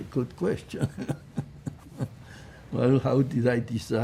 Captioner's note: laughing